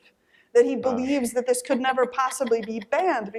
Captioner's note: laughter